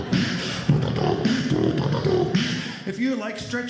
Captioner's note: vocalizing; beat boxing